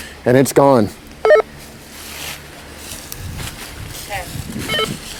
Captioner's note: walkie talkie bleeps